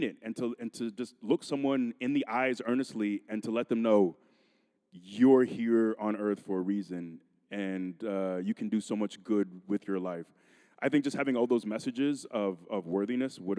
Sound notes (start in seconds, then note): none